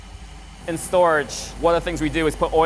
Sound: engine runs

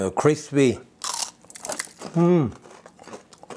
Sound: crunches

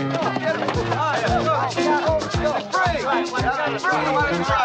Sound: men shouting

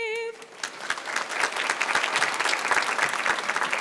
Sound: applause

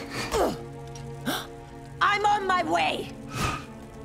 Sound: grunting; gasping

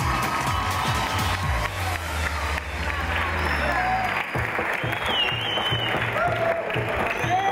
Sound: applause

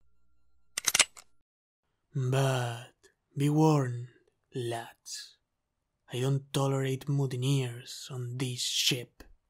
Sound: gun cocking

